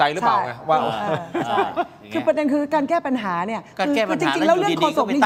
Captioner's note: laughs